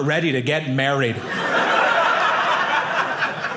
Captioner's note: audience laughing